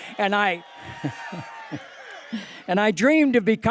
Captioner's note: cheering